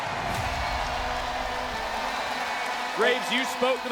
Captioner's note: crowd cheers